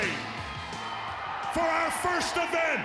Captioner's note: audience cheers